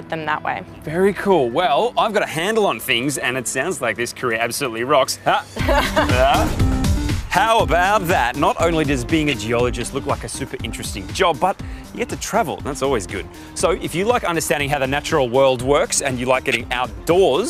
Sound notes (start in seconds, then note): 5.5 laugh